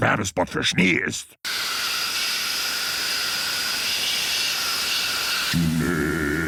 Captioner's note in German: Statisches Rauschen